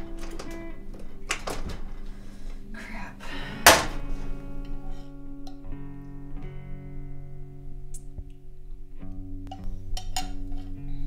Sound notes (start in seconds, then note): 3.6 can slams